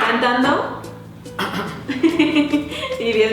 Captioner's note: clears throat